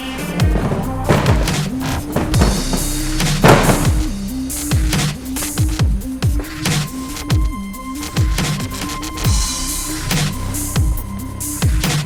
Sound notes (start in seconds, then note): 0.1 upbeat techno music; 3.2 board thumping; 5.1 upbeat techno music